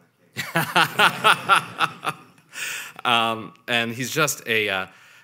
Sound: laughing

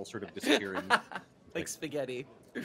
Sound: laughing

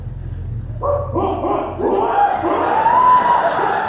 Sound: crowd laughing; yelling

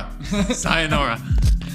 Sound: laughs

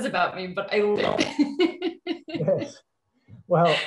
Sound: laughs

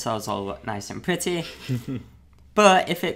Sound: laughing

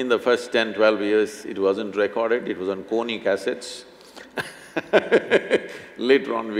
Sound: laughs

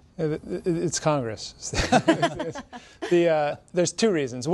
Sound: all laughing

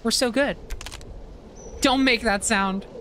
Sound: wood Crunches

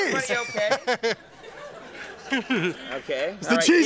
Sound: Wayne laughing

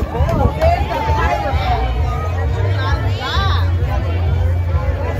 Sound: people chattering

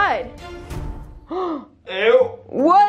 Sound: gasping

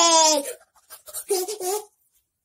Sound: panting

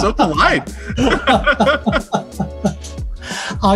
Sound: laughs

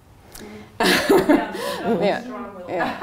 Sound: laughs

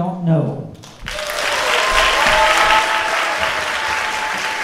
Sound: audience clapping

